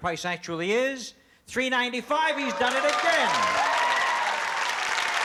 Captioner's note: cheers and applause